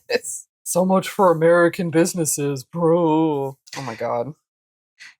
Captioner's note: mocking gibberish